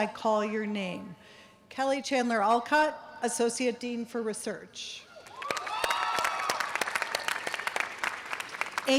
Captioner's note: audience cheers and applause